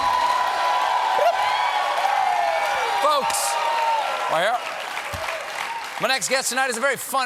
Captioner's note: cheers and applause